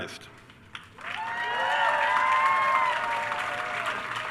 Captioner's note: attendees cheering